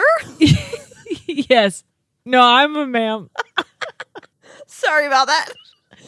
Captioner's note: laugh